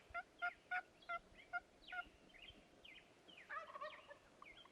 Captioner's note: turkey gobbling